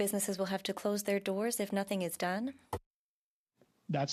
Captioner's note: speaking French